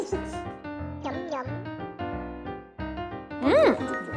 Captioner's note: munch munch